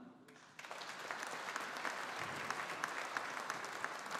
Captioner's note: audience applauding